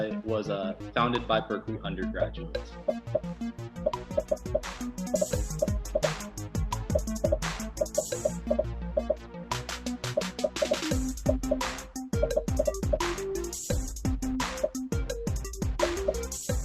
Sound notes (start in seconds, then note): 2.6 dramatic music; 3.8 popping